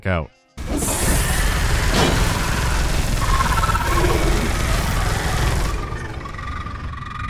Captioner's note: rapid gunfire and weird warbling